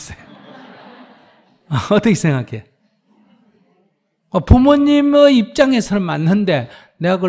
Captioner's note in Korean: 청중 / 스님 웃음; 스님 웃음